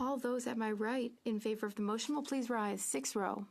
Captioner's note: speaking French